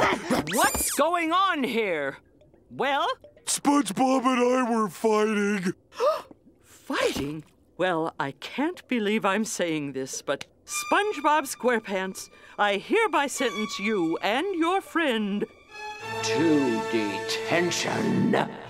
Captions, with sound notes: What's going on here? Well? SpongeBob and I were fighting. [gasps] Fighting? Well, I can't believe I'm saying this, but... SpongeBob SquarePants, I hereby sentence you and your friend to detention.